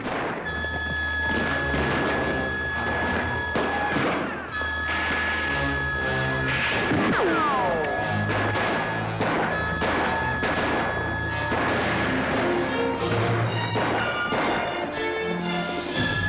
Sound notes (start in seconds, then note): 4.7 doors clatter; 4.7 dramatic music; 8.2 commotion & gunshots; 8.2 dramatic music; 8.3 bullet richochets